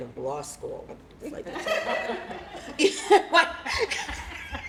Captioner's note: laughter